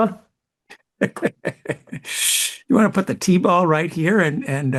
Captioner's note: laughs